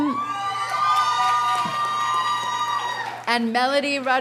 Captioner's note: audience cheers and applauds